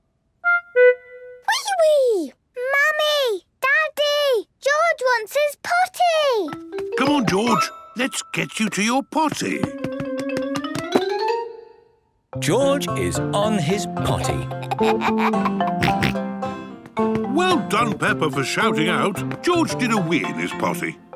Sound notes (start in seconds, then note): 14.4 giggles, snorts